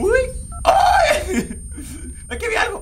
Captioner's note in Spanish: Grita